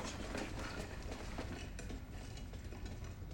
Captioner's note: wheels rolling